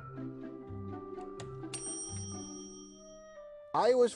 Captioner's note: bell dinging